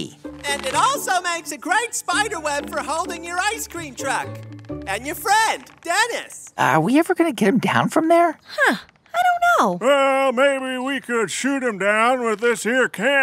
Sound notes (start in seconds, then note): 5.8 quietly to Mindy